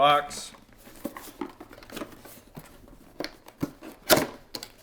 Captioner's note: box thudding and crinkling